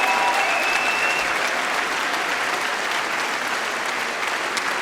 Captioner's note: cheering & Applause